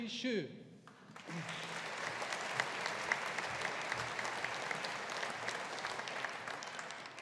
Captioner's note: audience applauding